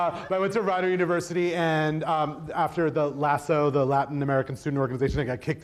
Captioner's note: laughs